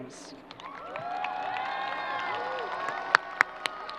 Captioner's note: crowd applause